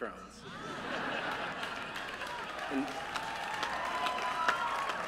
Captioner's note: laughter